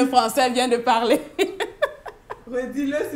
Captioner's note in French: rire